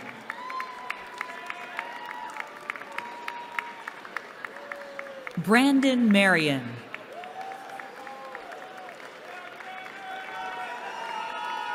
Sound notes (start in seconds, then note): 0.0 cheering; 6.8 cheering